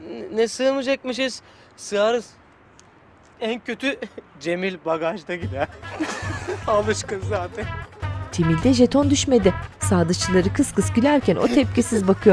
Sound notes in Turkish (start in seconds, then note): 5.4 Gülme sesi; 8.2 Müzik - Hareketli